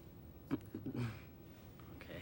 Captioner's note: Peter chuckles